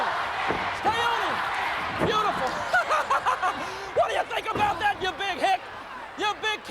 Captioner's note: laugh